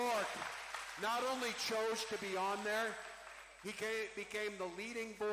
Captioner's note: cheering